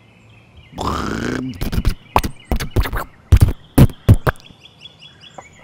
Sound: sputtering

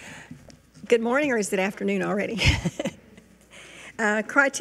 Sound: laughs

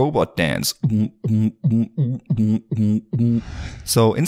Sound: vocalizes

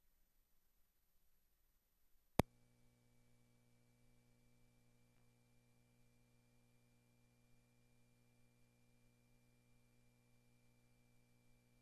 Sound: silence

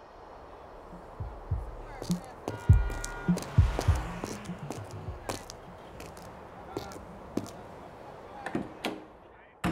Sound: footsteps and traffic sounds; door opens and shuts

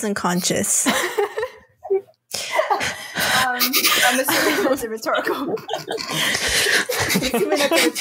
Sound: laughter

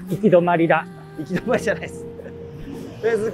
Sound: laughing

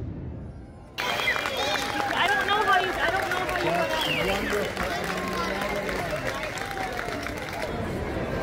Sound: loud applause and cheering

